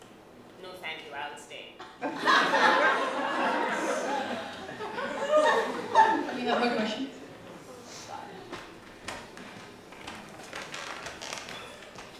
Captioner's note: laughter